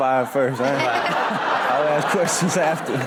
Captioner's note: all laugh